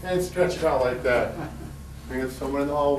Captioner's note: laughs